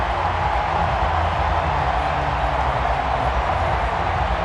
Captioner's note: crowd cheering